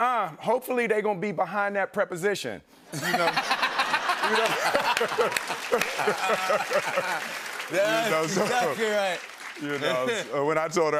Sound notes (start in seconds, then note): 3.0 laughter and applause